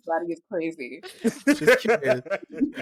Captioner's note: laughter